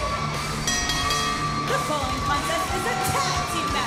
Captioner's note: bell ringing